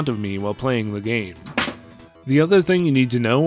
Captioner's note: show manual falling off desk